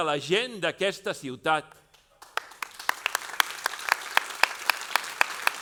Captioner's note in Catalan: aplaudiments